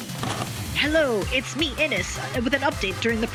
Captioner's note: sfx: VHS tape insert & whine; sfx: static